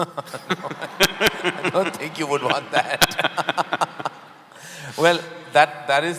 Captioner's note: laughter; both laugh